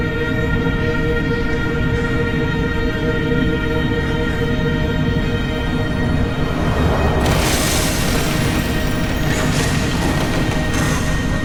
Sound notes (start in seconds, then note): 6.2 objects crashing